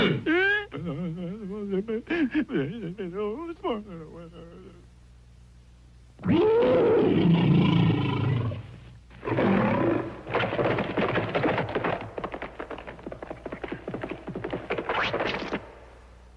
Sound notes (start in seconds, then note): 0.0 cavemen babbling; 0.0 caveman crying; 6.2 caveman roaring; 9.2 beast roaring